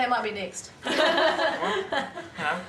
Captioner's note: all laughing